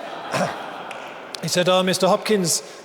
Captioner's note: audience laughing